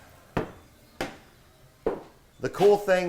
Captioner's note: loud footsteps